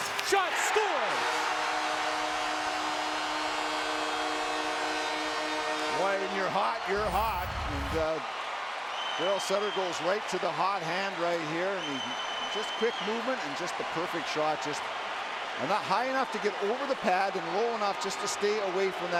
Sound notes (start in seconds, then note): 8.5 cheers & Applause